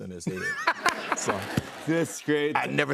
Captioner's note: laughter